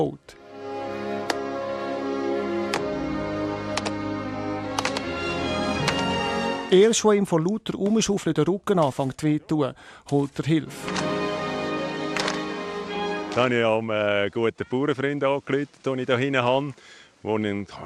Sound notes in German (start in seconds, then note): 0.3 Slowclap; 12.1 Slowclap